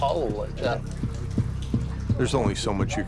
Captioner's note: thudding